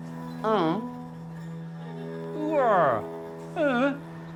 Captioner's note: growling